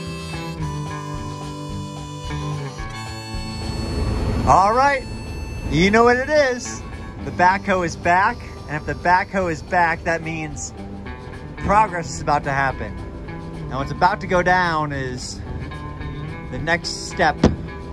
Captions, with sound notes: (backhoe rumbling) All right, you know what it is. The backhoe is back. And if the backhoe is back, that means progress is about to happen. Now, what's about to go down is the next step